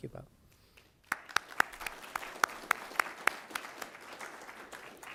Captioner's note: applause